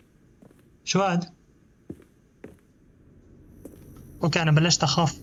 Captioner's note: footsteps